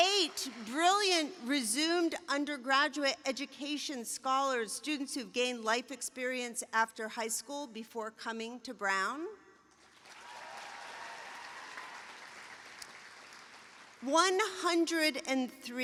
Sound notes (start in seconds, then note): 9.9 cheering, applause